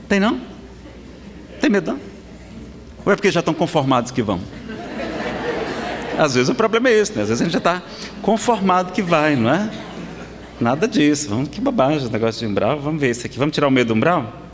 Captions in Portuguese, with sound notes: Tem não? Tem medo não? Ou é porque já tão conformados que vão. (Risadas) Às vezes, o problema é esse. Às vezes a gente já tá conformado que vai, não é? Nada disso! Que bobagem esse negócio de Umbral. Vamos tirar o medo de Umbral?